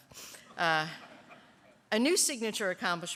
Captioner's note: laughter